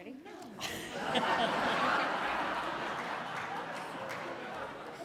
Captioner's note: audience laughs